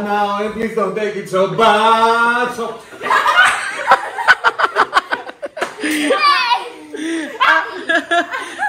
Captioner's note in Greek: γέλια